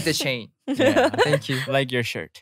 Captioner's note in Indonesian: tertawa